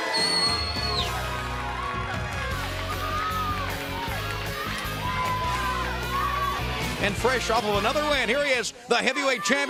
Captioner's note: bell ringing